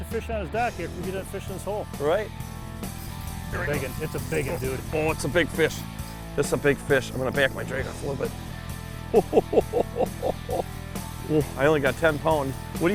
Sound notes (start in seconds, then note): 9.1 laughs